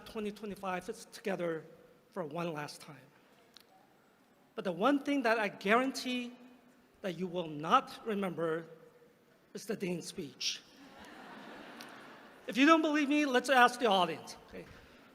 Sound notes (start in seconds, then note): 10.8 laughter